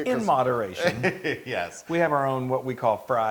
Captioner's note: laugh